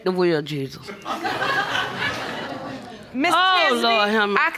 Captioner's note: audience laughs